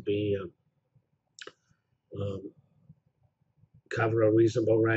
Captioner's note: pause